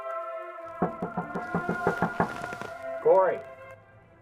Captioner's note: knocking